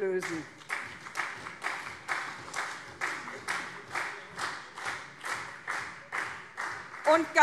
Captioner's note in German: Beifall SPD und CDU